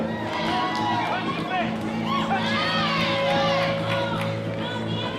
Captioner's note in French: acclamation de la foule